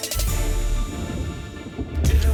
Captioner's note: thunder rumbles